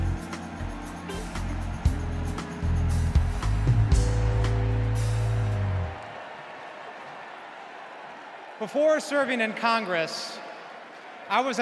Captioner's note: cheers and applause